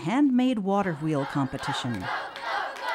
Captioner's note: clapping